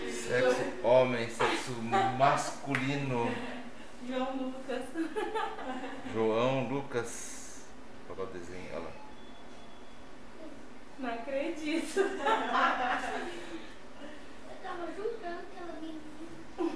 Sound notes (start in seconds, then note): 5.2 laughs; 11.8 laughter